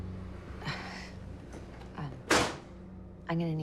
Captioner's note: porte qui claque